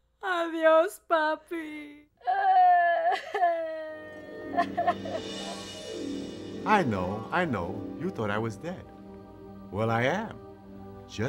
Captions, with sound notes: Goodbye Grampa. [Veronica cries] I know. I know. You thought I was dead. Well, I am.